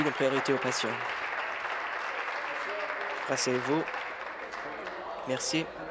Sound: applause

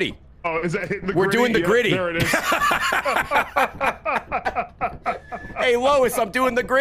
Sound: laughs

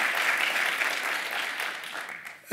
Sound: applause

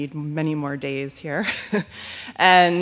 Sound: laughs

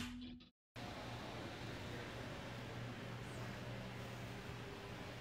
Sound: car engine roaring

